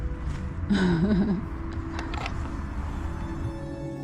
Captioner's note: laughs